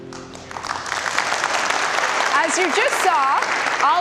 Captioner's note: audience applause